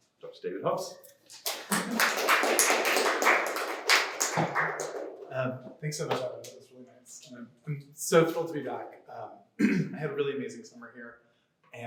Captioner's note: clapping